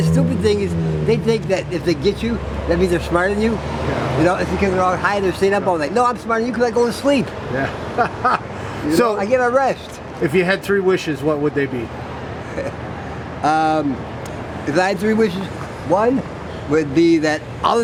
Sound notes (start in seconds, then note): 7.6 laughter